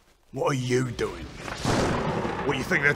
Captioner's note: crash